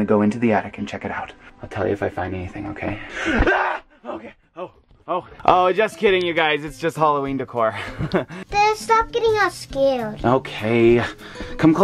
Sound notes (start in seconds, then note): 3.0 gasps; 3.4 screams; 7.8 laughs